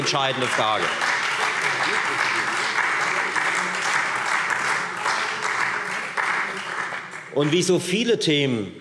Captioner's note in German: Beifall Freie Demokraten und SPD